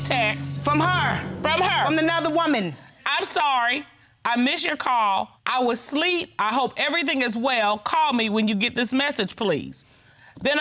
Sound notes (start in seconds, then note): 3.2 judge dana reading